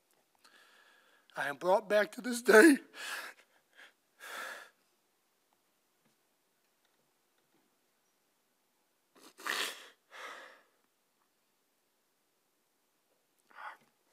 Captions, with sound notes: I am brought back to this day. (soft sniffling)